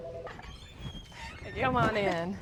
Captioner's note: door squeaking